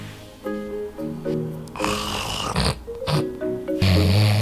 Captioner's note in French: ronflement